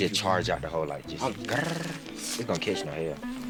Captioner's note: rolls tongue